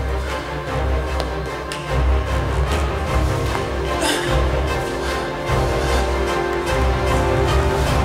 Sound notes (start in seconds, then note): 3.8 heaves heavily